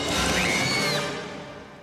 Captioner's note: vale screams